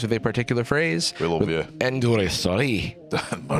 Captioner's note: scottishly